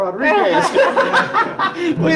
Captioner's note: laughing